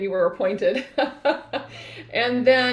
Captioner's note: laughing